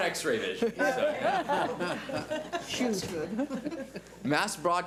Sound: board laughs

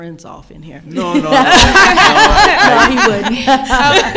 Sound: all laughing

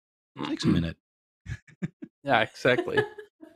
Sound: laughter

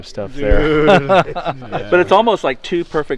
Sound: laughing

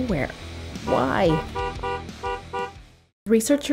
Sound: horn honking

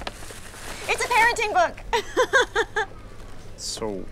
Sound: laughing

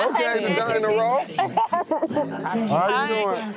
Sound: laughing

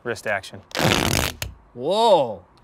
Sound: tearing

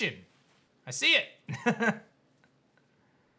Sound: giggles

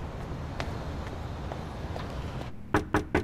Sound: knock on door

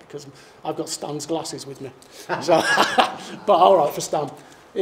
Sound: laughs

